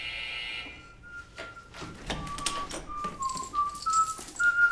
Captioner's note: door buzzing; Frank whistling